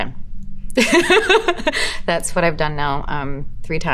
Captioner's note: laughing